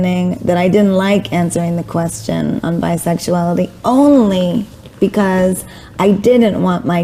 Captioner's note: none